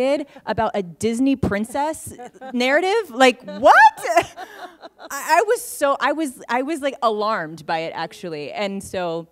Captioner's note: laughter